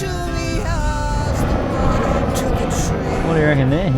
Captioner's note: aeroplane engine roars